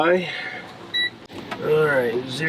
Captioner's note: beep sound